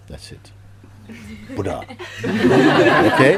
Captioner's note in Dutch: Gelach